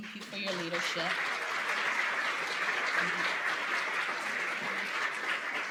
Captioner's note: applause